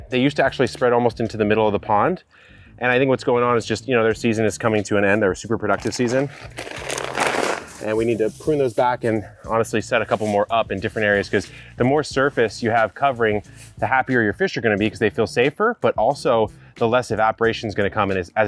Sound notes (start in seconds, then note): 5.7 bag rattles